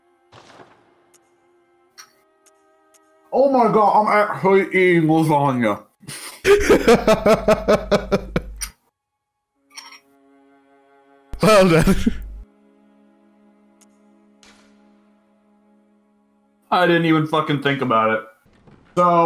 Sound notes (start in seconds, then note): 6.1 laughs